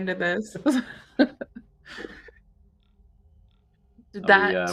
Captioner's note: laughs